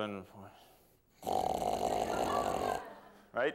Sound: snoring

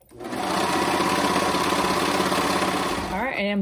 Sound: machine whirring

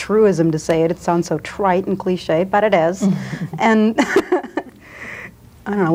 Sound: laughs

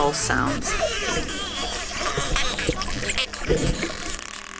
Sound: dolphin bursting

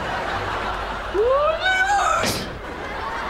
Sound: laughing

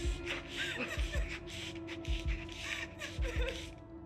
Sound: Lily sobbing

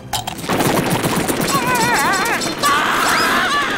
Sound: screaming

